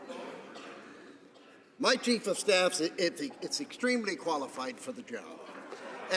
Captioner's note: some Applause